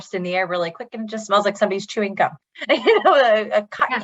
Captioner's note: laughs